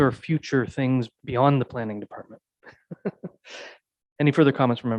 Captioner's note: laughs